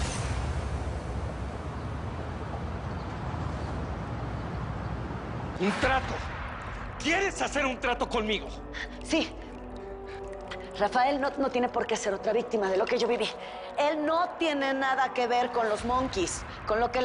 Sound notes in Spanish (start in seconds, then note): 0.0 Ruidos del tráfico; 9.1 Jadeando